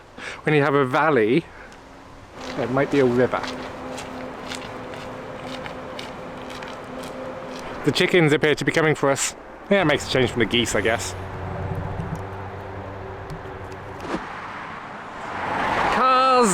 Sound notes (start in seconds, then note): 4.0 footsteps; 11.8 traffic noise